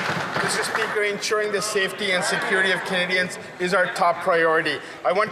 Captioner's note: some Applause